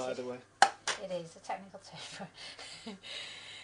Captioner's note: chuckling